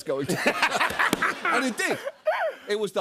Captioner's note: laughter